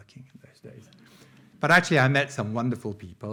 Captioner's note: audience laughing